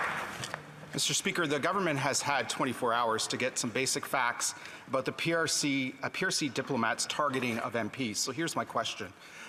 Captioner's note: some Applause